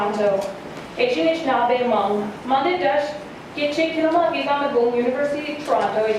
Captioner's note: speaking in Anishinaabemowin